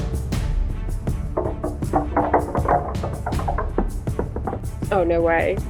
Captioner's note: rattling